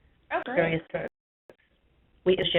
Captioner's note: voiceover